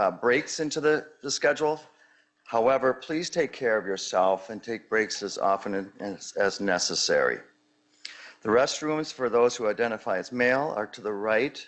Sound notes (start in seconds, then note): none